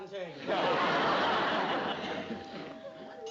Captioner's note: doorbell